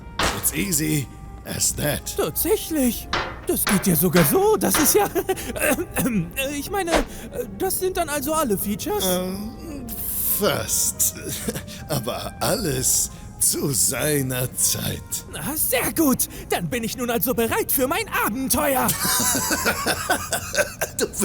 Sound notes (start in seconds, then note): 6.1 clears throat; 18.8 laughs